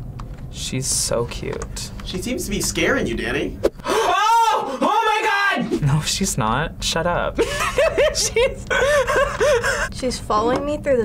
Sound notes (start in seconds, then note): 3.8 gasps; 7.4 laughs